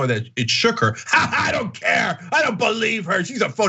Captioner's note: laugh